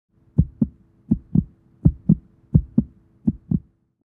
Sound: heart beating

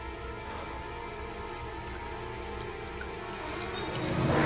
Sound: water pouring; suspenseful music

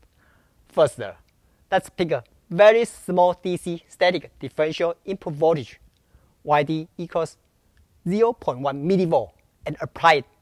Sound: static

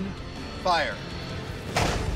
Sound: gun shot

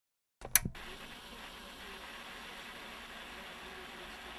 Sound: TV static

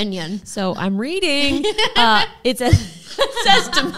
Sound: both laughing

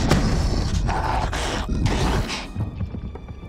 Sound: growling

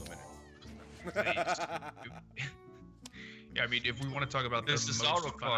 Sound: laugh

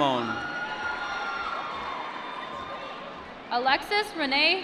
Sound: applause

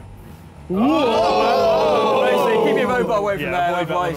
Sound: all cheering

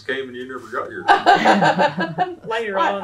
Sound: laughter

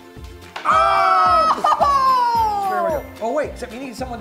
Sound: exclaiming

